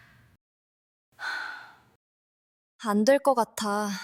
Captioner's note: sigh